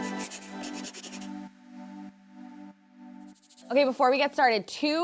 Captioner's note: pencil scritching